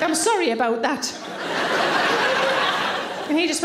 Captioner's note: audience laughing